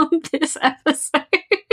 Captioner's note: laughing; laughs